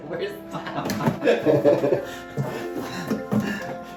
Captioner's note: laughs